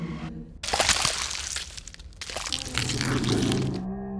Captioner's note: blood gushing; creature growling